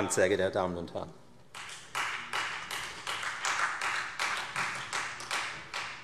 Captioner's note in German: Beifall Freie Demokraten